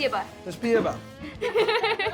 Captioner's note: speaking russian; repeats in russian; laughing